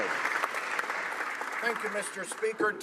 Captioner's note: some Applause